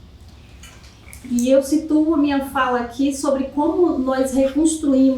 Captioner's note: speaking portuguese